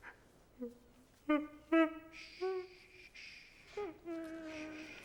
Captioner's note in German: Schluchzen